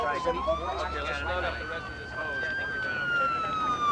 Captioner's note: indistinct chatter